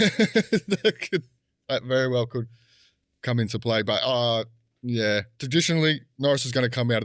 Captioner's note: laughing